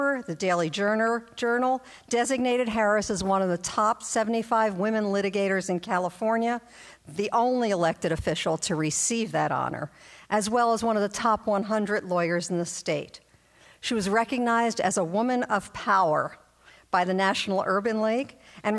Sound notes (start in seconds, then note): none